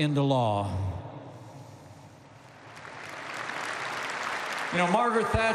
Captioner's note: applause